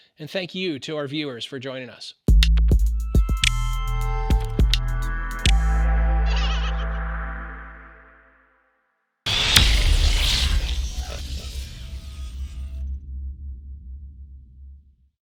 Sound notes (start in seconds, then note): 3.2 gentle upbeat music; 6.3 monkey laughs; 9.3 electronic music